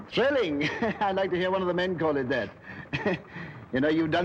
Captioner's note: giggles; chuckles